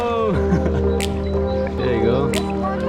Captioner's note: laughter